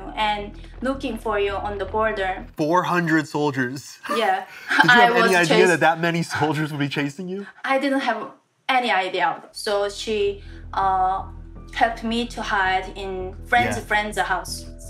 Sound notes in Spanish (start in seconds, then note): 4.1 risas